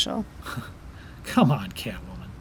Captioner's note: Nightwing scoffs